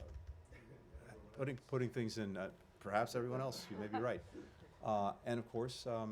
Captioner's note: laughter